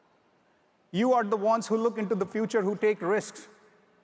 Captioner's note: none